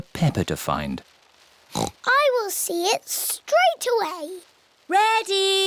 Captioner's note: oinks